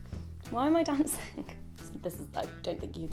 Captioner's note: laughs